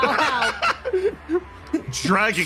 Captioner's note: laugh